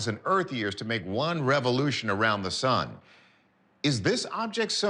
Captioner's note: none